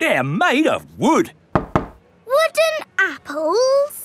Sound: knocks

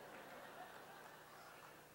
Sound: laughter

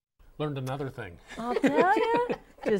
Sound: laughing

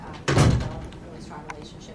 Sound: door slams

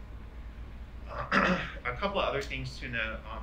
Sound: clears throat

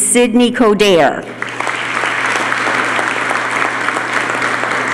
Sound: applause

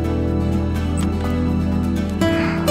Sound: door opens

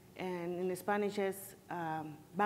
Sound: speaks in foreign language

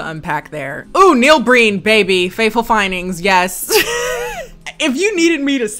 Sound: laughs

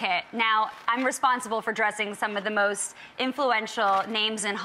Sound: none

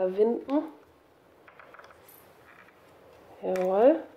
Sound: quiet creak

